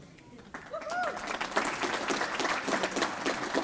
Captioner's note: applause